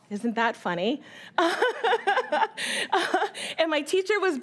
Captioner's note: laughing